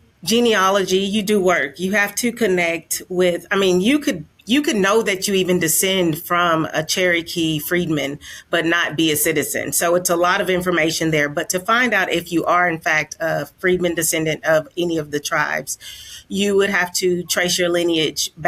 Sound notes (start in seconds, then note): none